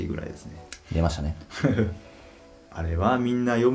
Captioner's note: laughs